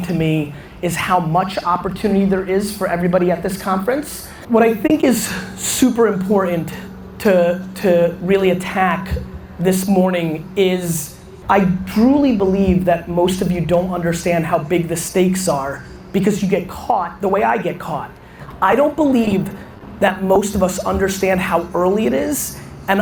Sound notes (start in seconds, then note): none